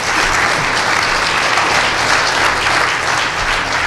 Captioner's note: applause